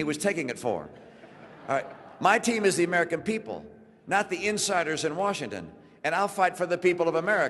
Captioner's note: laughter